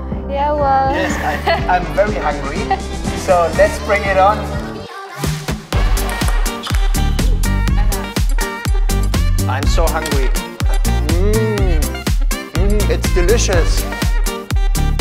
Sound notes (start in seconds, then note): 0.9 laughs loudly; 5.2 electronic dance music